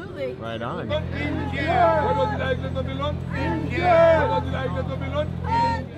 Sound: people yelling in foreign language

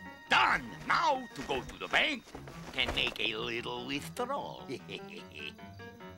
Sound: chuckles

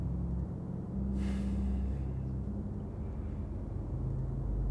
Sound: Alonzo exhaling

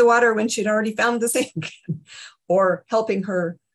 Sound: chuckles

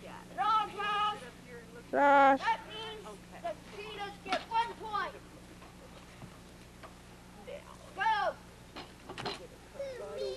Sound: talking in background

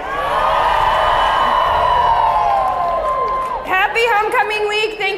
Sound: people cheering

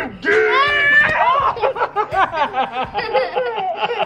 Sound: laughing

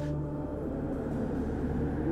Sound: heavy winds

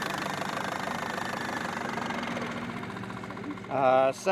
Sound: electric motor cranking; boat engine idling

